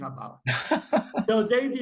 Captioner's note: laughs